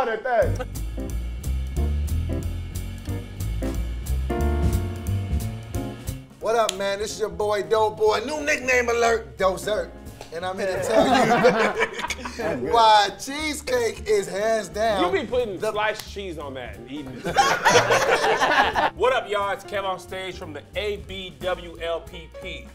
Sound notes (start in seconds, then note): 0.3 smooth jazz music; 10.6 group laughs; 17.0 group laughs